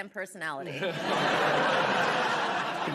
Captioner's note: laughter